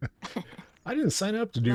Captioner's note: laughs